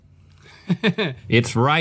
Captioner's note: laughs